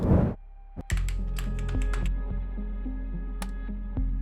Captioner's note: typing sound